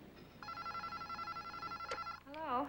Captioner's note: telephone rings